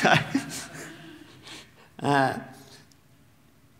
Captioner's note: audience laughing